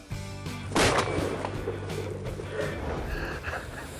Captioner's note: upbeat music; gun shoots